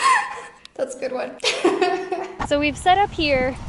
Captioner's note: laughs